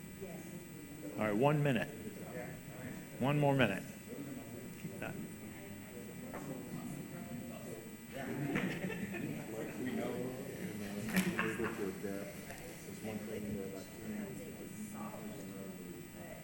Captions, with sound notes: - All right, one minute, one more minute. (group chatter)